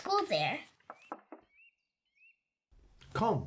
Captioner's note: knocking